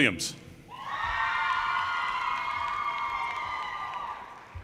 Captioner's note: audience cheers